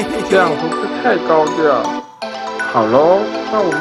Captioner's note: hehehe